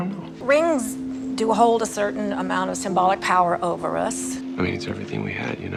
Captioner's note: voiceover